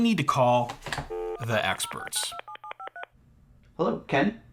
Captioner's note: phone dialing